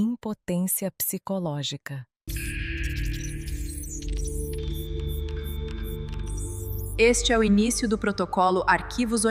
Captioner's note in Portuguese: ruído eletrônico